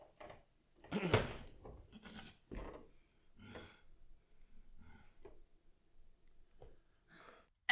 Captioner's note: grunts